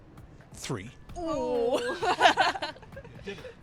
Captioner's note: chuckling